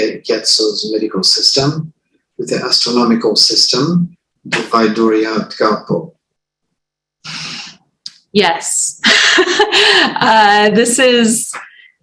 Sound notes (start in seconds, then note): 4.3 non-english; 9.1 laughs